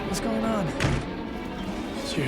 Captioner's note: banging